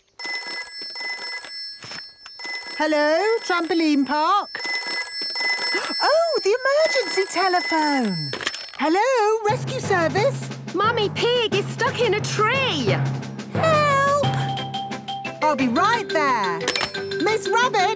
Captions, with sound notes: (phone ringing) - Hello, Trampoline Park. (phone ringing) Oh, the emergency telephone! Hello, Rescue Service. - Mummy Pig is stuck in a tree. - Help! - I'll be right there.